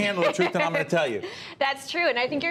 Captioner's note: laughter